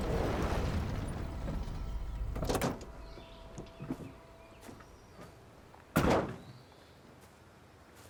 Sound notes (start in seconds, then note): 4.0 birds chirping